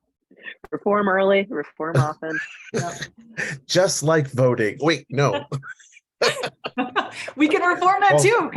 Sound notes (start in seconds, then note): 2.0 laughs; 5.2 all laughing